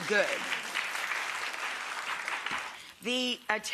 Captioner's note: crowd clapping